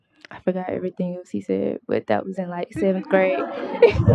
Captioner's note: laughter